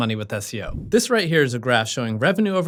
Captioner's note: air whooshing